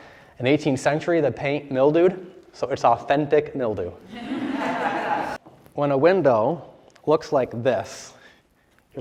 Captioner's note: laughter